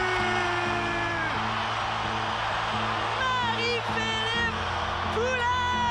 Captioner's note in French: acclamations